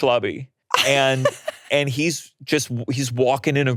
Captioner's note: laughing